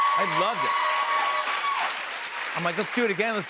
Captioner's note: cheers and applause